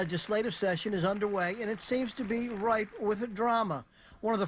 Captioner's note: applause